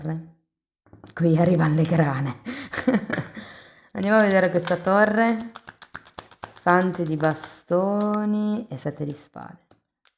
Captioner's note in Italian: risate